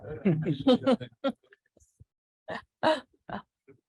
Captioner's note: laughter